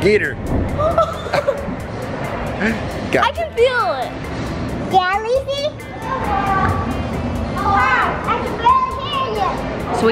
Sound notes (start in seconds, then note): 7.5 shouting children